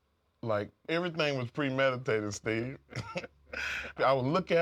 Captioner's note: laugh